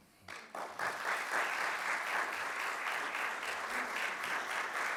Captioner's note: audience applauds